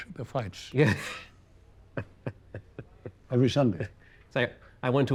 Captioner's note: chuckles